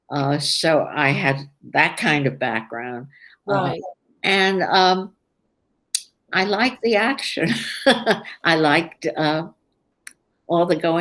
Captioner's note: laughs